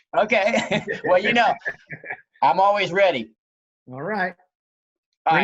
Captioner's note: laughs